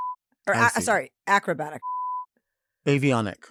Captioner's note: beep; beep